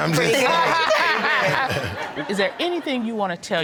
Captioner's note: laughing